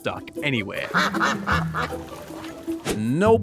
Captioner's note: quacking